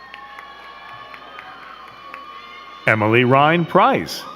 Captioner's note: crowd cheering and clapping